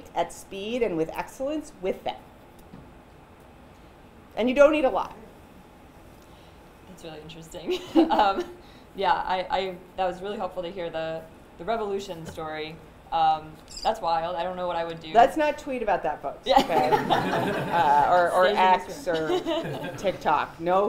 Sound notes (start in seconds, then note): 7.6 chuckles; 16.5 laughter